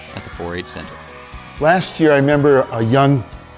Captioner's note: crowd